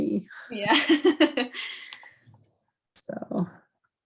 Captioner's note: all laughing